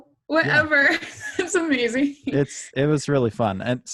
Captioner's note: laughs